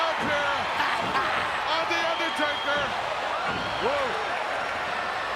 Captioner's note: Roddy laughs